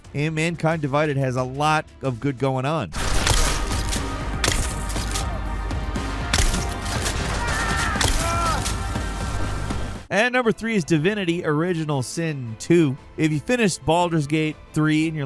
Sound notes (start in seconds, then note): 2.9 dramatic music; 7.4 battle sounds